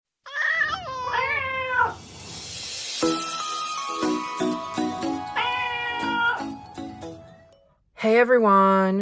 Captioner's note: meowing Cats